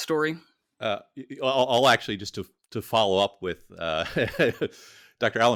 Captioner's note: laughs